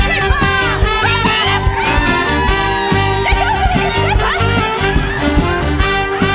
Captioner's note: screams